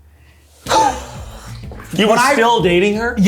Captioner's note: laughing